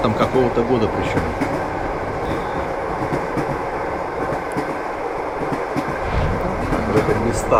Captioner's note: train wheels clatter